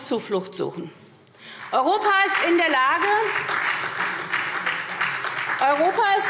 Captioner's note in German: Beifall SPD